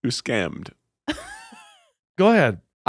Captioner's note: laughing